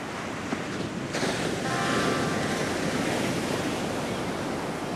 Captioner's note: sound of surf